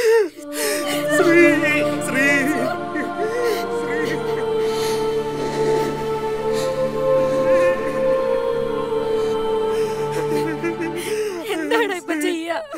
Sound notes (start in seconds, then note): 3.9 breathes heavily